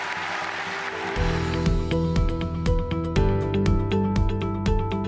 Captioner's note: cheers and applause